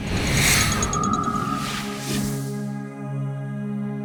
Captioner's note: electronic beeping; graphic whooshing